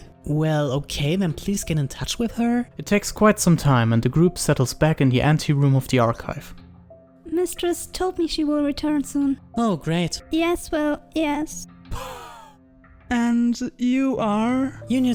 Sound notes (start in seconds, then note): 9.6 sarcastically; 11.9 poof